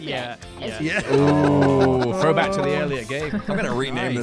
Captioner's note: crowd "ooo"s